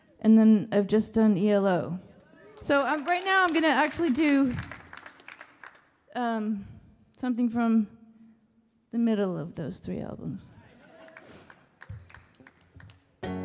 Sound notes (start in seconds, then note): 2.4 audience applauding; 10.9 audience applauding and cheering